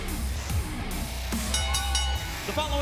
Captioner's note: bell ringing